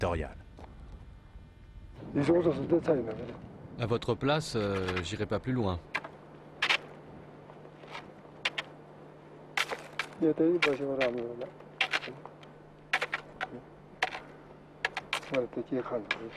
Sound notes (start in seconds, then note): 10.2 Nepali spoken audio